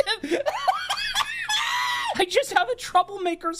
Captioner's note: laughing